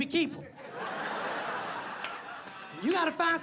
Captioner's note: audience laughs